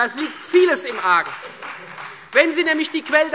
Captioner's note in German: Beifall Freie Demokraten